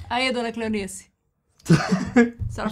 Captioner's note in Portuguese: risos